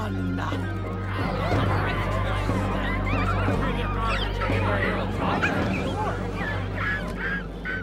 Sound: crowd murmuring, rats squeaking

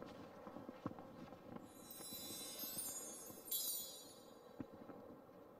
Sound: twinkling sound

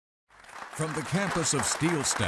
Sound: applause

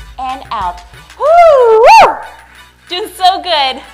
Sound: screams cheerfully

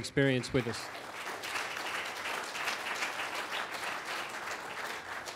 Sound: applause

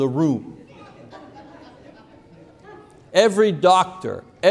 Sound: congregation laughing

